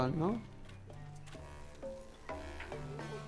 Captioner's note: fire crackling